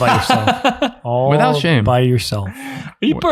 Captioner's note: innocent laughing